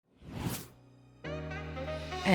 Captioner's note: whooshing; upbeat jazz music